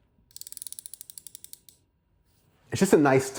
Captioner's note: watch clicking; watch ticking